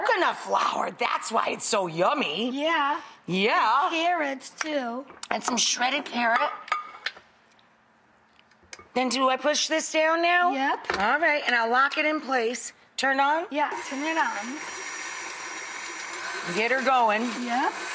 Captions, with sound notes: Coconut flour, that's why it's so yummy. Yeah. Yeah! Carrots, too. And some shredded carrot. And do I push this down now? Yep. Alright, and I'll lock it in place. Turn on? Yeah, turn it on. (machine whirs) Get 'er going.